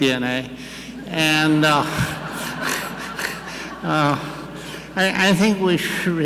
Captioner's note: audience laughing; laughing